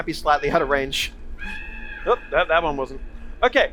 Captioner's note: loud bird sound